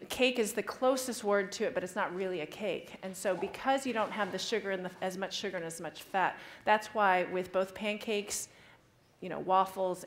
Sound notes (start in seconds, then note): none